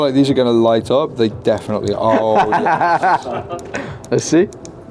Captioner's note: laughing